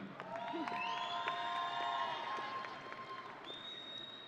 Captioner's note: audience cheering